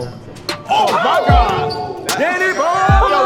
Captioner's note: chattering